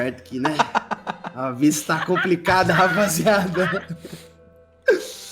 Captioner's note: laughs